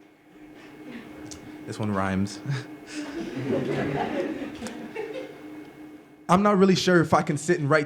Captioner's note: laughter